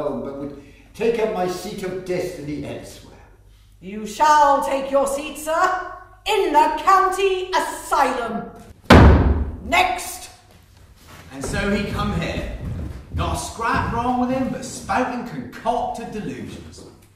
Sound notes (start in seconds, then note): 10.5 stamps foot